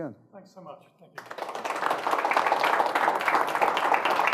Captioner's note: audience applauding